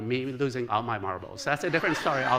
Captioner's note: laughter